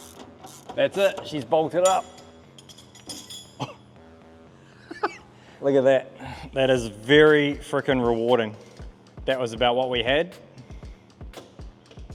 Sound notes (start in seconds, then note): 0.0 screw creaks; 3.0 laughs; 3.0 metal thud